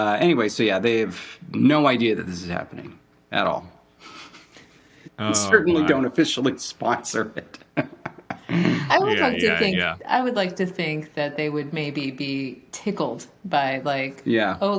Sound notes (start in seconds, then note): 7.4 laughing